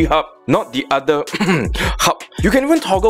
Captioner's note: clears throat